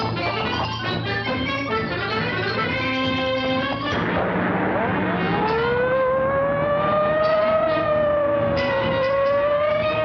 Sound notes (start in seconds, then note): 3.7 car engine revving; 4.6 siren wailing